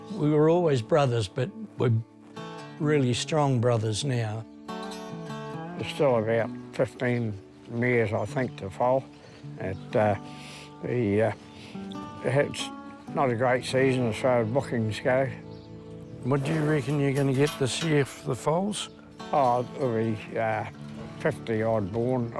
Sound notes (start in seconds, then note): 10.0 mutters